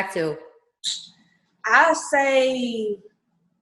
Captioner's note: clicks tongue